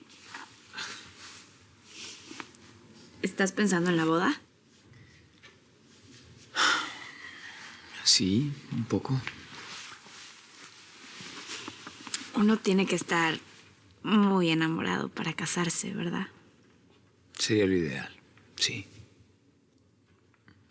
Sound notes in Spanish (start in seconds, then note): 6.5 Suspiros